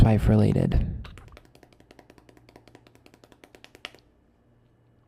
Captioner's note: tapping